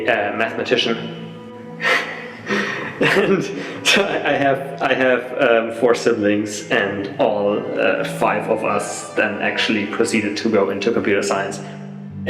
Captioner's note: laughs